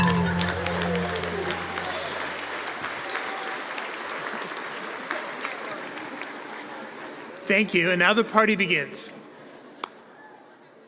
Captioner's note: applause